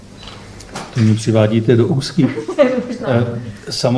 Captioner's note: laughs